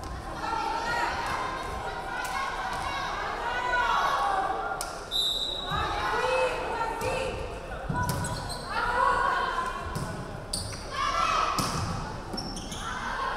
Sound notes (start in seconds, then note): 5.1 referee whistling